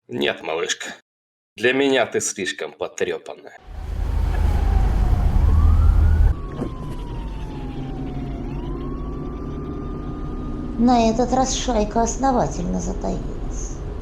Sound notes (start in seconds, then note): 6.7 police siren sound